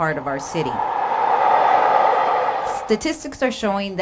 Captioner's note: MARTA train noise